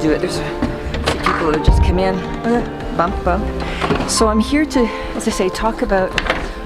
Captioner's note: bump, bump